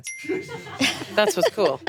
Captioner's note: bell ringing